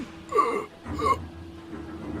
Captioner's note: gasping for air; screams in agony